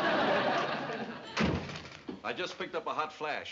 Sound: door slam

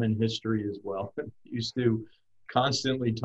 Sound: chuckles

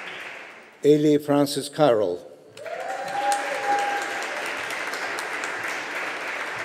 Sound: audience applauding

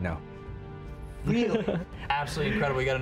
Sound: laughs

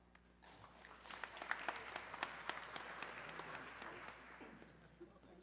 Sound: audience clapping

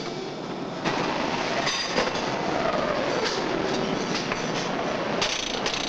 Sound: machinery rumbling

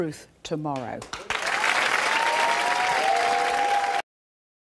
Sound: applauding

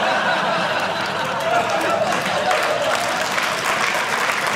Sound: foreign language; audience laughing; audience applauding

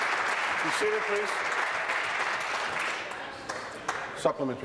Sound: applause

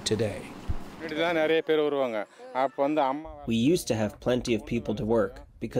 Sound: through translator

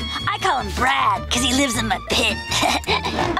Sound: chuckles

